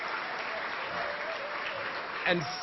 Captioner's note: applause